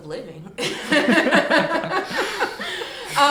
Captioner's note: laughs